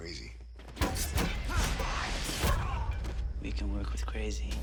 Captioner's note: strikes thudding